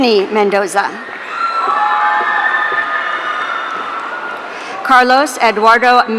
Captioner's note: audience cheering